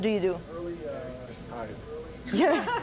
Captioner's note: laughter